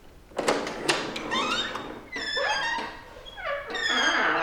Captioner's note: door creaks opens